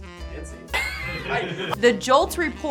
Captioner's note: laughs